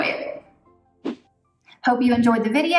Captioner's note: air whooshes